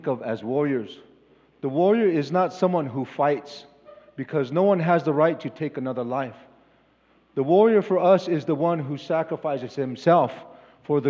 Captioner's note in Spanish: Expositor habla en inglés